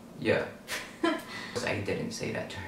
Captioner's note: laughs